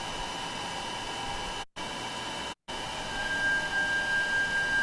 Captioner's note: gpu sound continuing